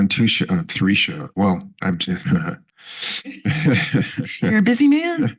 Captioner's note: chuckles